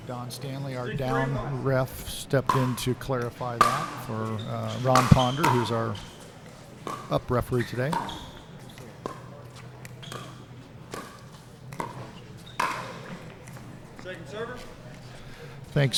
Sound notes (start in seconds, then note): 7.9 ball being hit; 8.0 shoes squeaking